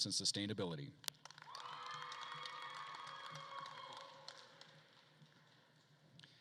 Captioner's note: attendees cheering and applauding